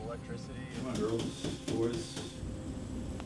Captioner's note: tapping